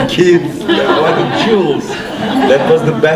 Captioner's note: laughter